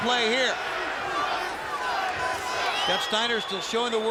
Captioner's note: audience cheering